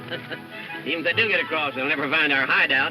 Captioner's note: laughs